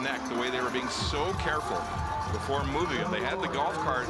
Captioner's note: cheering and Applause; crowd Noise